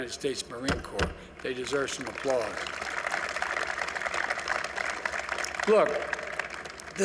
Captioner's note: applause